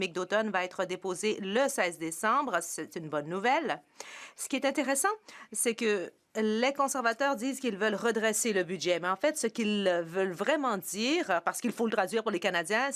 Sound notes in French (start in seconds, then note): 1.0 voix de l'interprète